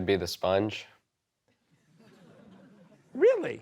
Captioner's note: laughter